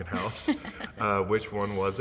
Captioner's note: laughing